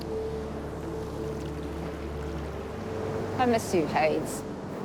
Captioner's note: water trickles